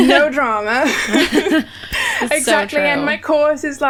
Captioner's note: laughs